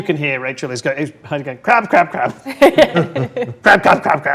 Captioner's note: laughs